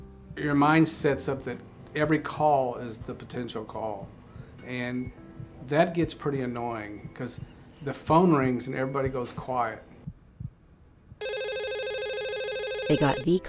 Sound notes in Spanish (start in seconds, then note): 11.2 Teléfono sonando